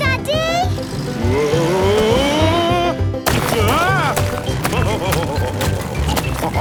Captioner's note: laughing